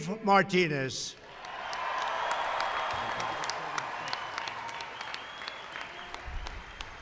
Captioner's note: applause